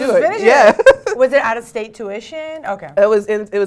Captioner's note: laugh